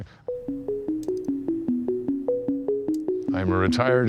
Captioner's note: mouse clicking